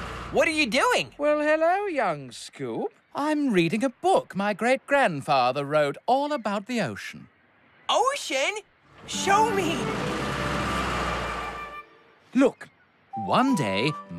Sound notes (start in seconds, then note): 9.0 engine Revs